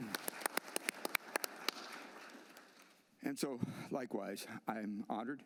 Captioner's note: applause